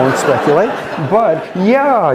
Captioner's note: laughter